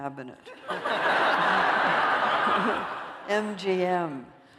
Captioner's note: laughter